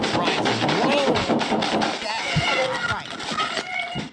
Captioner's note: gun firing